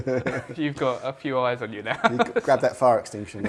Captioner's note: laughs